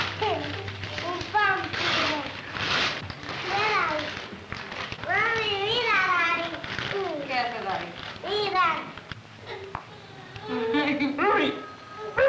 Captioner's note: Spanish speaking